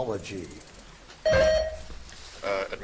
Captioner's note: buzzer dings